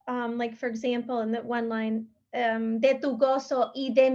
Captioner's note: speaking in Spanish